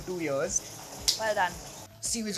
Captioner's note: hands clapping